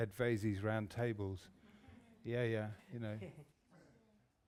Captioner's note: laughter